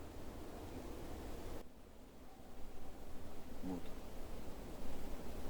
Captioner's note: shouts from the forest - "I'M HERE"